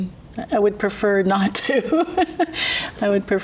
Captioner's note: laughs